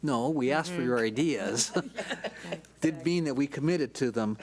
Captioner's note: several board members chuckle